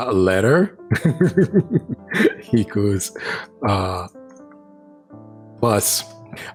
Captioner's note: laughs